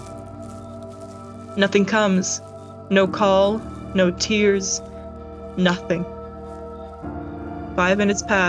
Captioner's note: walking noises. wind noises